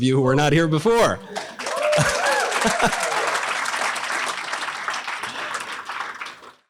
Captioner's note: audience laughter